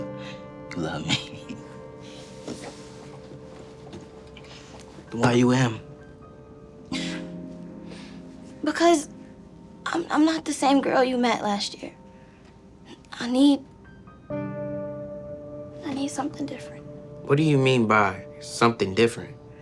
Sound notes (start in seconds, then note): 1.1 chuckling; 6.2 melancholic music continues; 6.9 sighs